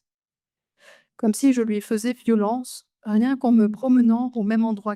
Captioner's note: speaks French